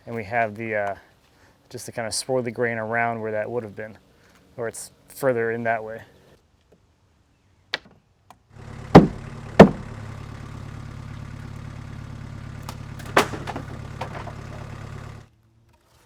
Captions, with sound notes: And we have the... just to kind of swirl the grain around where that would've been, or it's further in that way. (wood slamming down) (wood breaking off)